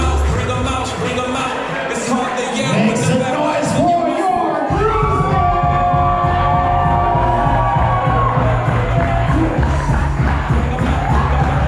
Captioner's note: applause; applause